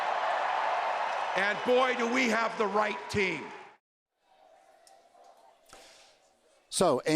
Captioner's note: applause